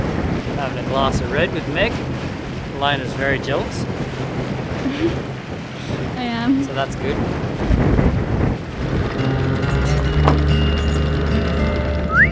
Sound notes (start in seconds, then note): 4.8 laughs; 8.9 folk music